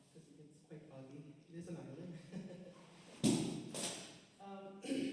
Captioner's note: laughs